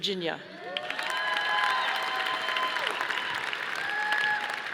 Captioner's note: audience applauding